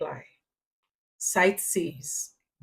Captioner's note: paause